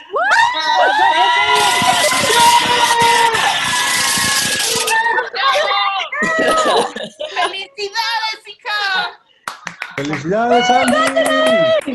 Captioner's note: cheering